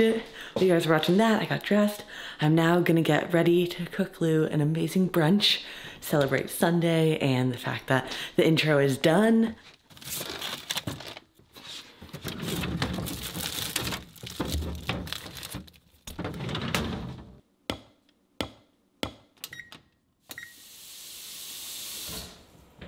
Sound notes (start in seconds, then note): 12.0 packaging crunching; 12.0 drawers rattling; 17.7 knife banging; 17.7 stove beeping